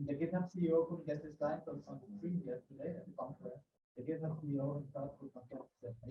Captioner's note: faintly speaks